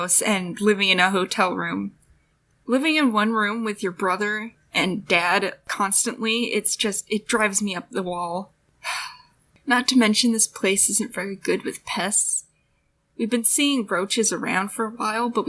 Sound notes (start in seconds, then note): 8.9 sigh